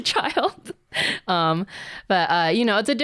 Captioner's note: laughs